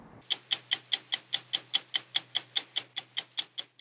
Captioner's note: clock ticking